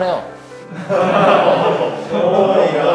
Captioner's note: crowd disturbed